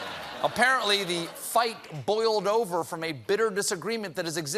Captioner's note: laughter